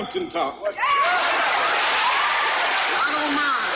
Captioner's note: crowd cheering